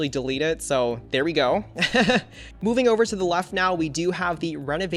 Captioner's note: laughs